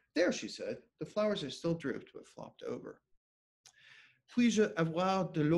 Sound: speking French

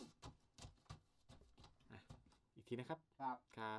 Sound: footsteps

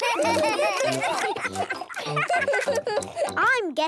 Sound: giggling, chewing

